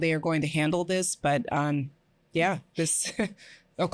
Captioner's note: chuckles